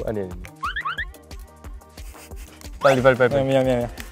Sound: struggling

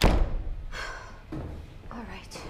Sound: sighs

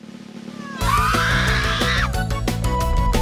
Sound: witch and servant scream; upbeat music

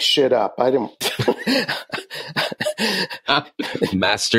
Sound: laughing

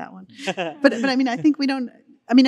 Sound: all laughing

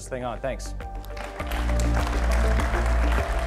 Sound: applause and Music

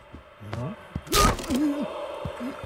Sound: ripping noise

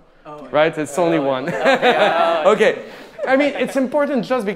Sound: laughing

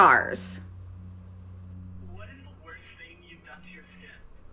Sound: static hums

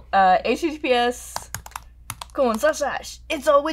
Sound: loud typing

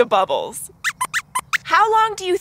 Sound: squeaks squeaks

